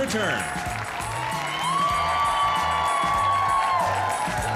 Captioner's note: audience cheering